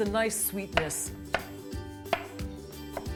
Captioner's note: chopping